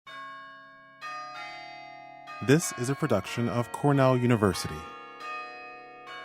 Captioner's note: bells ringing